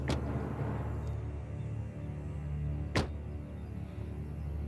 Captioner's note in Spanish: ruido al cerrar las puertas